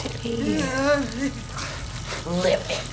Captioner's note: moaning